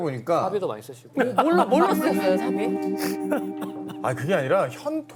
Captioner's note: Moo Yul suddenly bursting into laughter